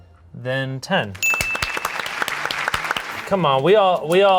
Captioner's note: applause